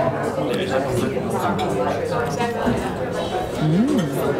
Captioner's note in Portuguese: ambiência de restaurante